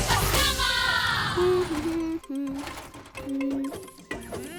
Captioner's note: humming